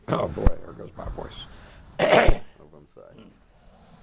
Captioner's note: cough